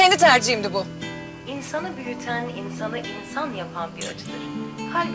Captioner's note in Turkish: Kadın radyo ses